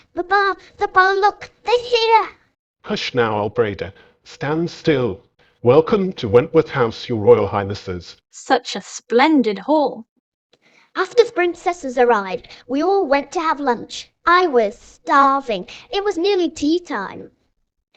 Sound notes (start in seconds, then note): none